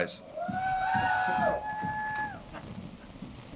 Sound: cheering

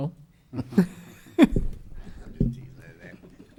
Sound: laughing

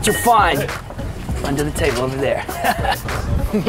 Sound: laughs

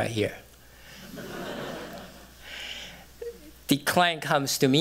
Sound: laughter

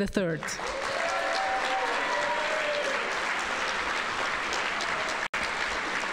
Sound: audience cheering and applauding

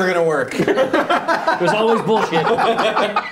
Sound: laughing

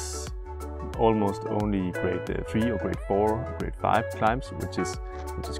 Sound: French

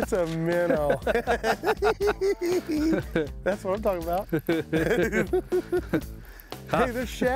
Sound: both laughing

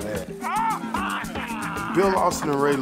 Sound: loud laughter

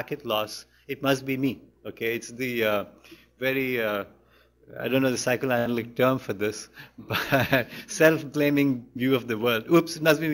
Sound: laughs

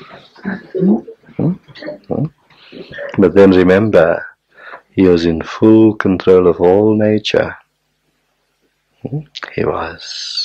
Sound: general laughter

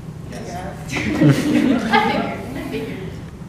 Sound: group laughs

